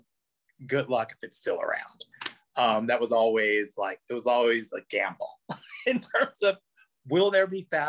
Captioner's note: laughs